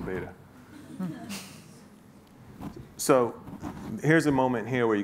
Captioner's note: laughing